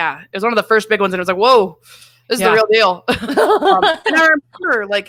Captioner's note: laughs